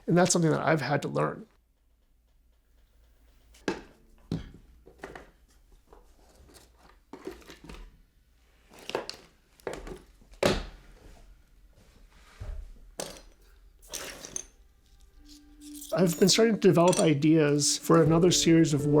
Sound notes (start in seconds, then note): 3.7 objects clattering